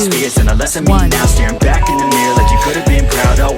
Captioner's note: beep; upbeat music